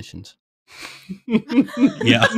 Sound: laughter

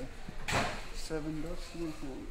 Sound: thudding

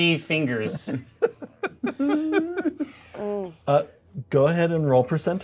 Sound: co-hosts laughing

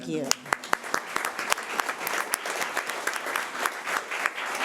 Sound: audience applauding

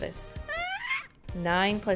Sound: whine

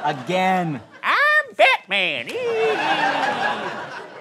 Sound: high-pitched voice

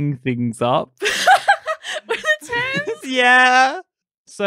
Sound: laughing

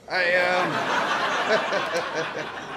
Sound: laughter

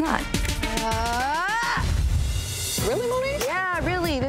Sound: Moniece groaning

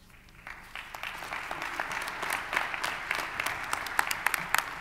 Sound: audience applauding

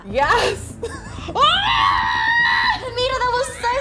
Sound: shouting

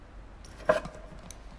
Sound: glass scrapes table

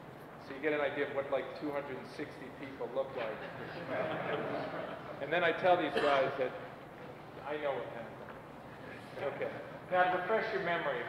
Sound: laughter

